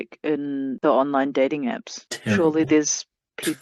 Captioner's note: scoffs